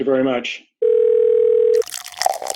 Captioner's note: phone ringing; coffee pouring